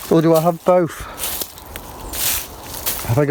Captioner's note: leaves rustling